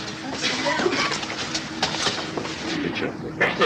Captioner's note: crowd murmuring